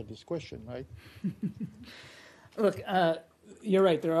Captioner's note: laughter